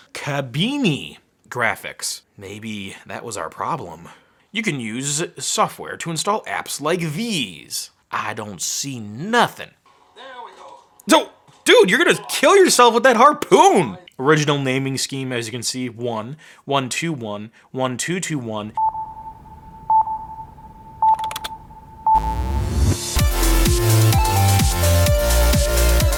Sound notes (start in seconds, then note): 18.7 sonar beeping; 22.4 uplifting music